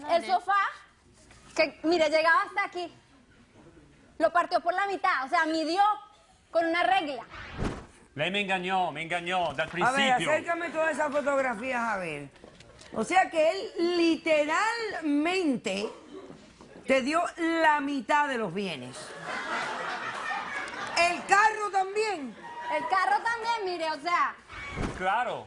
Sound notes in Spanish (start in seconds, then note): 19.1 Risas del público